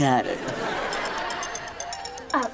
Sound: phone ringing

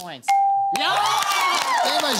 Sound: cheering

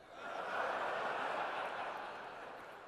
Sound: laughter

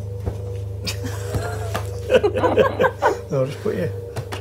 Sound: laughs

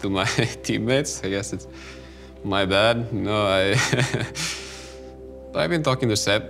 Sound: laughs

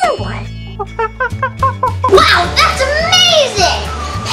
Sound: monkey calling

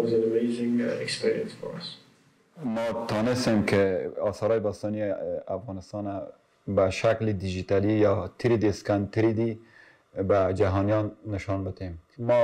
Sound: non-english

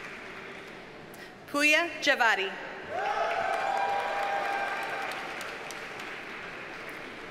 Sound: audience cheers and applauds

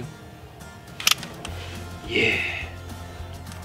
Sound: gun cocks

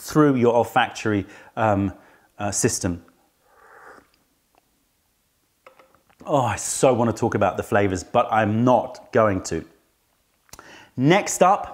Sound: sips tea

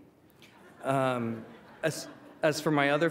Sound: laughter

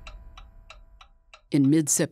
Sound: clock ticking

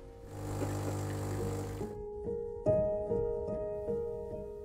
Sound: motor whirring

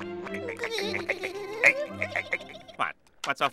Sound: laughing

